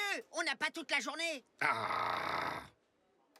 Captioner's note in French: grogne